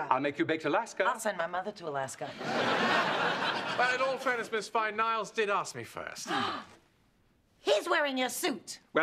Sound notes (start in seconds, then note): 6.2 gasp